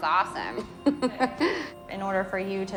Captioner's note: laughs